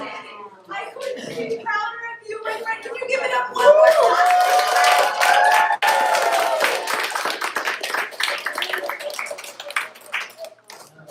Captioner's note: applause